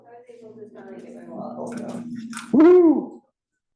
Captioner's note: student speaking faintly